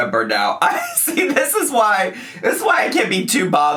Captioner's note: laughs